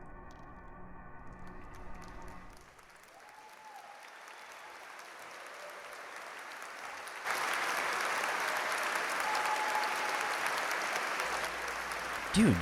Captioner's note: applause